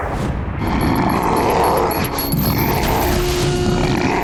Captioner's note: grunting